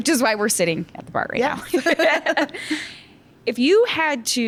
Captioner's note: laughs